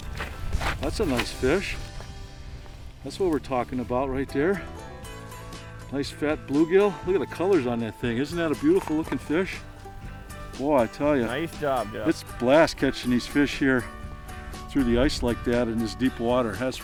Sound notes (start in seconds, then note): 11.0 voiceover